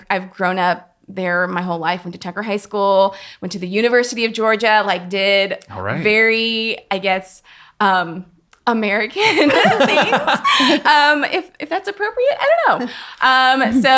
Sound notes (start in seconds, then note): 9.4 laughing